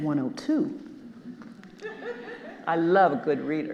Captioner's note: audience laughing